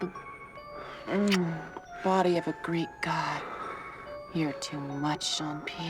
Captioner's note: moaning